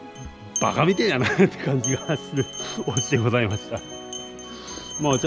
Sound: laughs

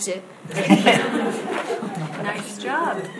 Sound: audience laughs

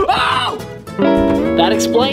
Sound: jazzy music; screaming

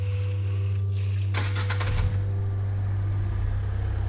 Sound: engine starts

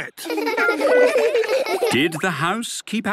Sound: laughter

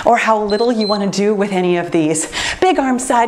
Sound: timer beeps

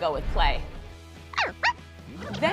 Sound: Dog-E barks

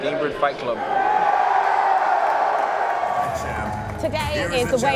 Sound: cheering

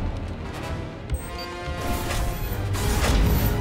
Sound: controls beeping

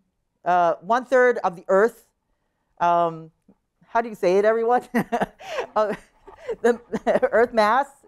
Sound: laughter

